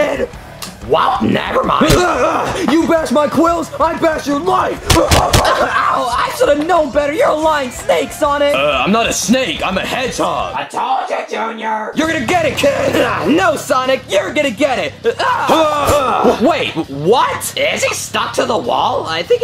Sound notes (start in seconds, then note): 0.1 energetic rock music; 4.8 punches thudding